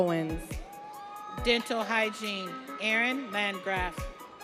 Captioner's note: audience cheering